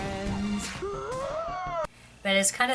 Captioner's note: loud gasp